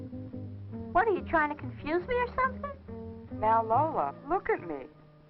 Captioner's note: none